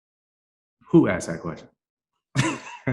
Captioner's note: chuckles